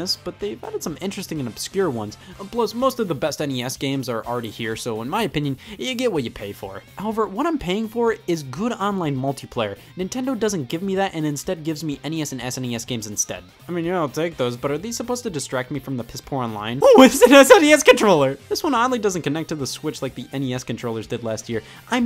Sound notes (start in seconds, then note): 16.9 excitedly